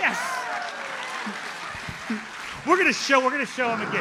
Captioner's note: audience cheers and applauds